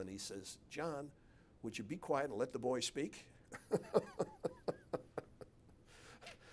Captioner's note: laughs